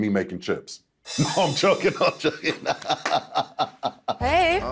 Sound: laughing

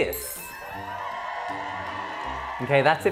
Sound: crowd cheering

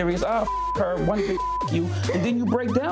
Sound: beep

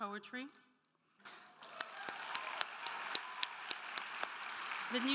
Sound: crowd cheering; crowd clapping

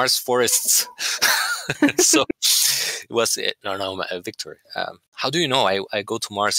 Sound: laughter

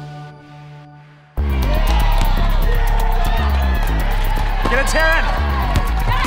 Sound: crowd cheering

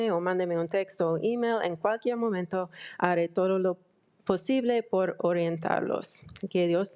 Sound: speaking in foreign language

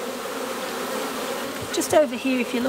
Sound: bees buzzing

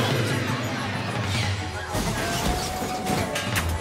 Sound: crash

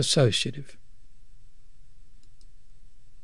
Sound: clicking

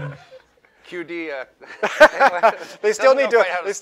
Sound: laughter

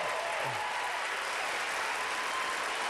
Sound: applause

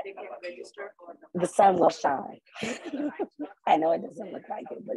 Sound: laughter

